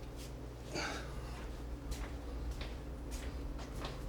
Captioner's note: grunting